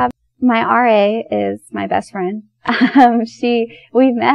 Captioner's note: laughs